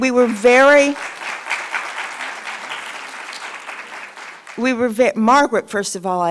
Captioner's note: audience clapping